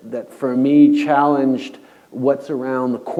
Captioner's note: none